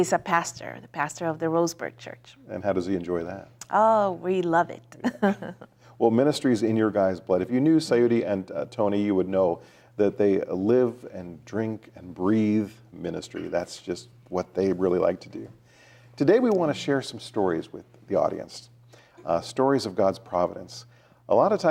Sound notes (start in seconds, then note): 5.0 laughs